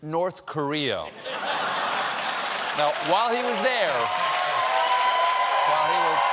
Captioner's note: applause; laughter; cheers and applause